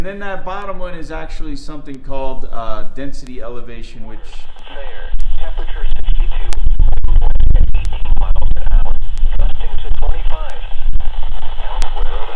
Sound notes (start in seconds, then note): 4.2 radio static voice; 7.8 clicks